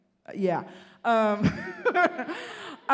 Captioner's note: laughing